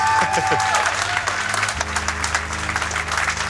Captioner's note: crowd cheering